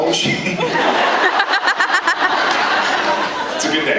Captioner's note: laughs